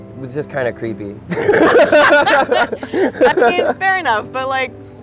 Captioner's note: both laughing